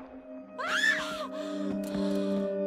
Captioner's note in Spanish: Disparo; Grito